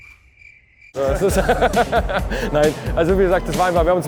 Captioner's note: laughter